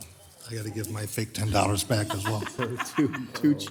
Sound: council members laugh

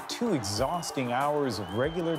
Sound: cheers and Applause

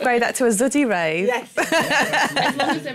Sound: laughter

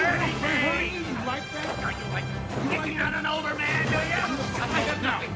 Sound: distant Fighting

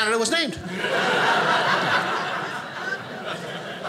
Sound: audience laughing

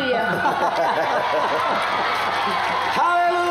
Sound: laughter; applause and cheering

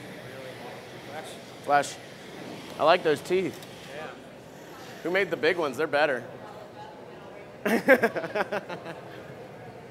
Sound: laughter

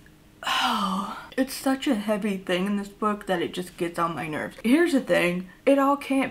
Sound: sighs

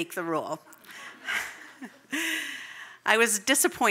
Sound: audience laughs

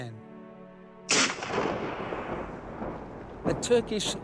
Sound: gunshot blasts

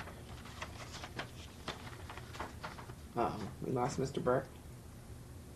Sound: papers rustling

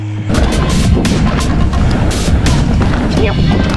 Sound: bike clatters

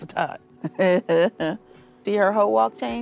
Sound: laughs

